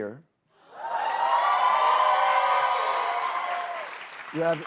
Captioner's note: cheers and applause